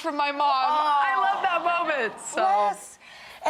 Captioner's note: audience applauds